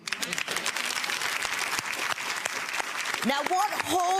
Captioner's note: clapping